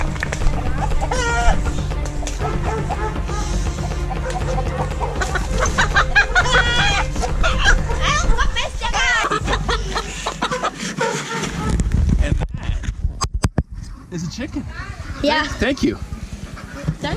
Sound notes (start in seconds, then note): 1.8 chicken clucking; 8.1 speaking Romanian; 16.9 speaking Romanian